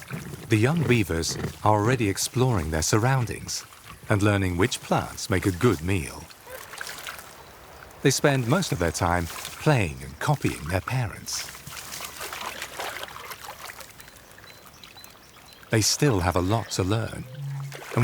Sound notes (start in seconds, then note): 12.1 water sloshes